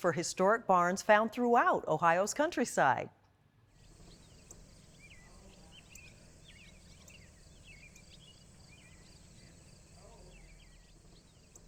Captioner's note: birds chirping